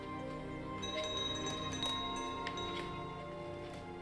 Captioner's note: bell rings